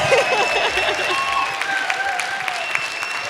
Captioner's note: applause